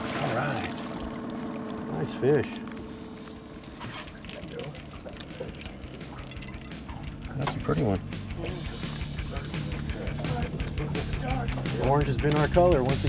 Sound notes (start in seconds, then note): 0.0 fish splashing; 7.3 tackle jangling